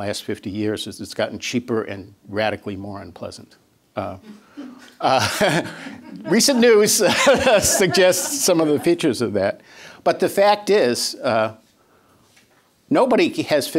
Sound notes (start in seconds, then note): 5.0 laughter